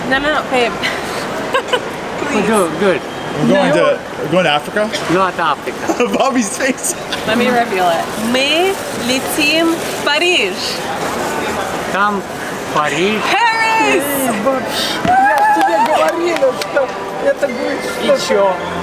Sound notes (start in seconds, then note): 1.6 laughs; 2.7 grandpa speaking Russian